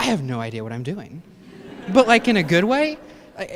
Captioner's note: laughter